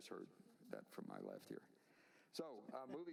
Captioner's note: laughter